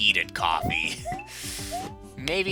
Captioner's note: inhaling